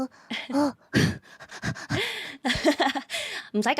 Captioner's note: heavy breathing